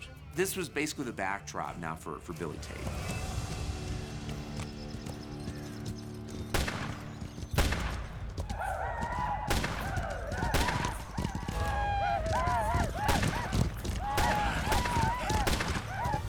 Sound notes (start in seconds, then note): 6.0 gunshots; 9.1 paiutes yell, gunfire